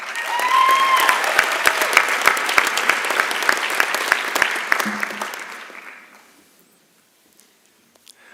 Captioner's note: applause and Cheering